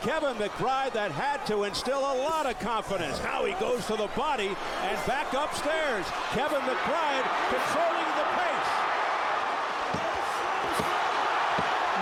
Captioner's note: applause